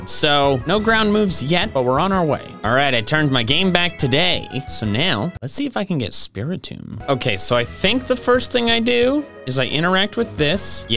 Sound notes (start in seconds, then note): none